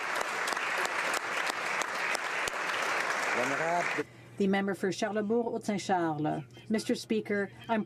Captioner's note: applause